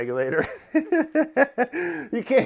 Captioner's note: chuckles